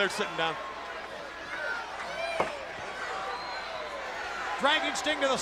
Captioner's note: crowd cheering